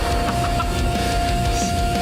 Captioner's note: crazed laughter